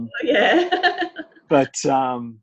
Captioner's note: laughs